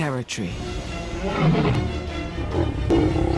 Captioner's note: roars; growls